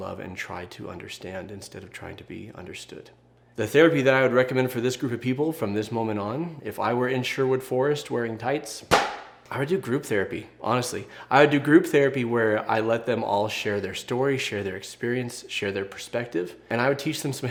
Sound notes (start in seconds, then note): none